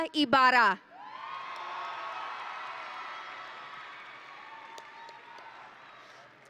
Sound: audience and graduates cheering

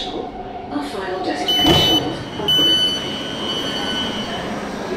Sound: door chime

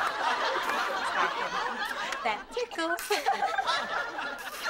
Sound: giggling softly

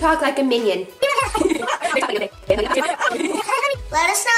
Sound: children chattering rapidly

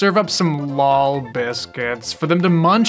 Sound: strained, unenthusiastic voice

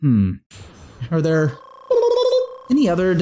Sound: imitating the restore health noise

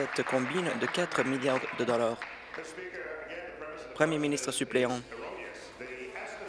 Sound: applause

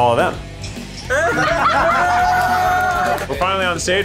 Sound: all laughing

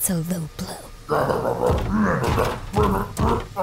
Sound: grunting

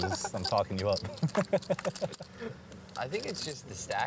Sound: laughter

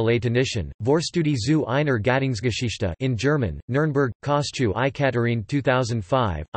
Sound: in German

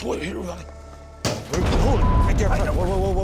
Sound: banging sound

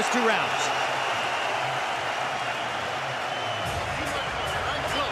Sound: cheers and applause

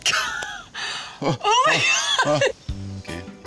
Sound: laughing

